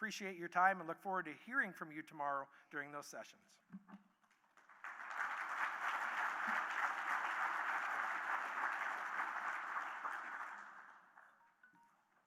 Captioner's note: audience Clapping